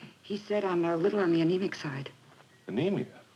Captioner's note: none